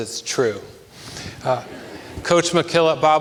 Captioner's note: audience laughs